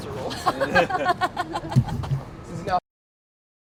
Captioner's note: riendo